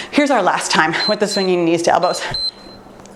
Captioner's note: timer beeps